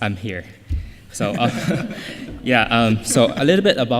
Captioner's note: laughter